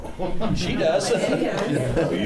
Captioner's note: laughs